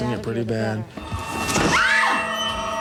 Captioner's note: scream